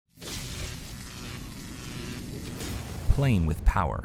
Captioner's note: electricity crackles